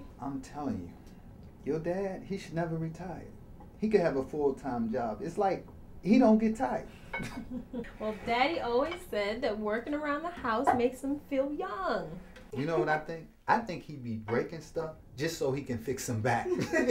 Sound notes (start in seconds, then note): 7.2 Tasha laughs